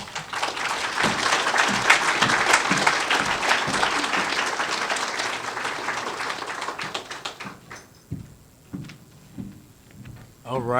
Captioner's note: applause